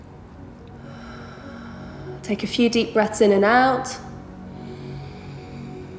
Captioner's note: heavy breathing